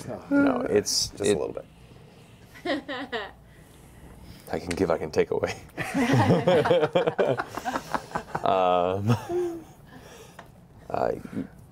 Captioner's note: laughs